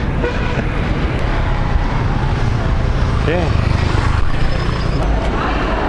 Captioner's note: engine sounds